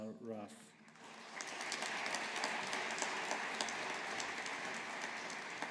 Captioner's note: audience applauding